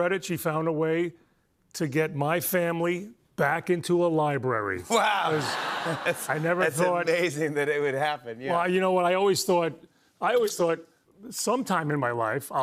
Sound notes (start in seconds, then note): 5.2 laughter